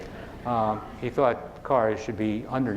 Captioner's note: laughing